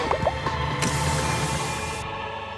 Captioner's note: fizzles